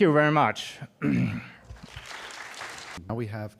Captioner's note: applause